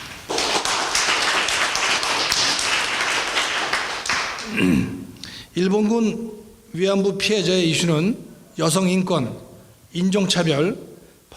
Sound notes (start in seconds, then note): 0.0 applause; 5.7 speaking in foreign language